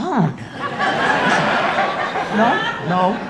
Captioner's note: audience laughing